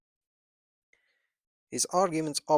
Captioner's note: pause